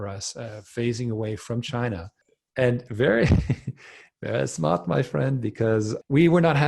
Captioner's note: laughs